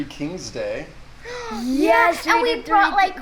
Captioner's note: gasps loudly